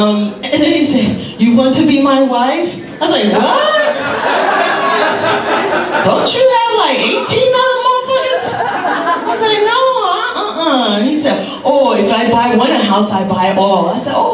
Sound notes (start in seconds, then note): 3.2 audience laughs